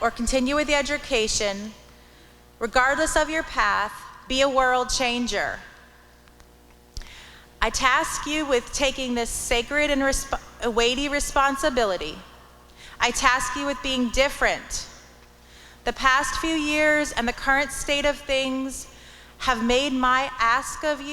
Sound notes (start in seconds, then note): none